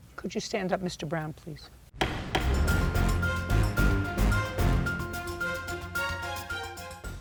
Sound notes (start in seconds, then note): 2.0 gavel banging; 2.1 lively music